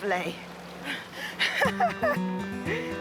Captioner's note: laughs